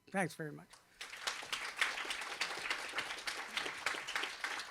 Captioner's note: applause